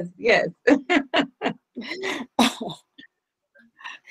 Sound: laughing

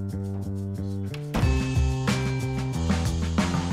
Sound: none

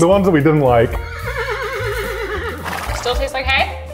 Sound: horse whinnies

